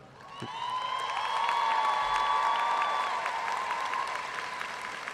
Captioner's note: audience cheering and applauding